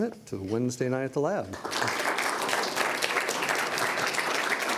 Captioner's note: applause